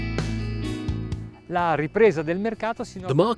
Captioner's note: foreign language